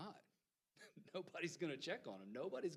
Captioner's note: laughing